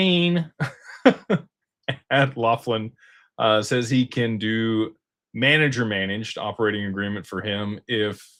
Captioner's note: laughter